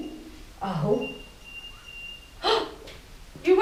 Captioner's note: whistle